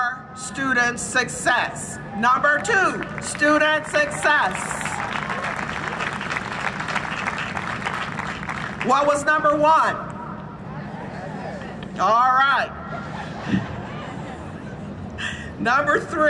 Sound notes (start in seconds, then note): 2.9 applause and cheering; 12.8 audience laughs; 12.9 laughs